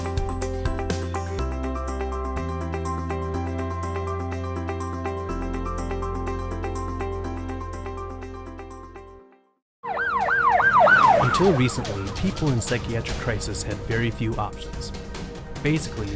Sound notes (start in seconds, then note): 11.9 sirens blare; 14.6 dramatic music